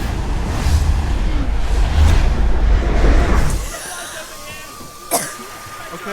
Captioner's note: alien transmission